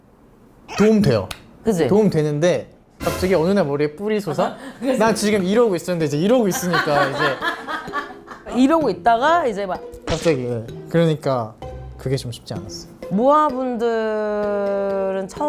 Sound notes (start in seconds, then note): 3.0 sudden horns sprouting